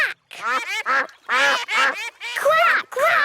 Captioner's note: quacking